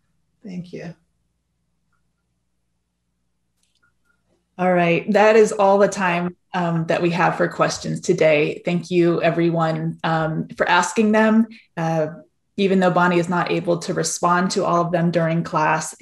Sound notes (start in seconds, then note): none